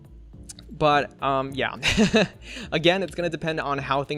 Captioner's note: laughs